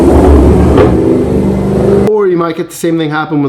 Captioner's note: cars roaring